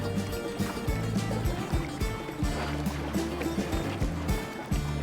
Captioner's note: water lapping